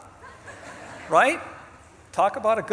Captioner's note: audience laughs